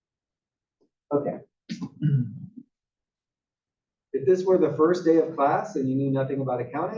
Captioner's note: cough